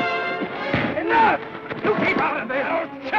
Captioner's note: thud